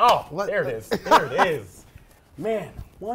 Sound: laughing

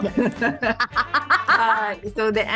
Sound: laughs

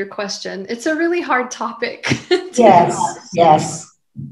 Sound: laughs

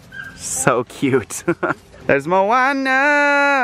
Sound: laughs

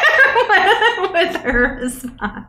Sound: laughs

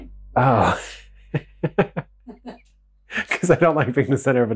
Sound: laughing

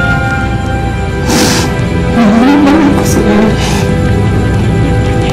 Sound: sniffles

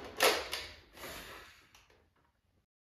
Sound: beatty exhales

